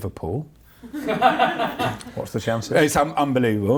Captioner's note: laughs